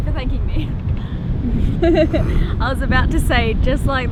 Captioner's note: laughs